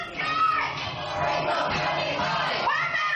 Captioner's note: crowd chanting